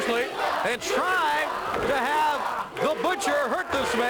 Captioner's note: crowd cheering